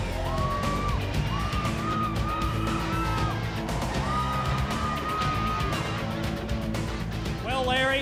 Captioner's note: crowd cheering